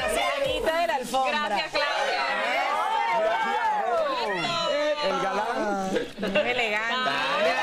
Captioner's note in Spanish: risas